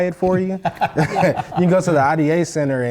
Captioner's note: laugh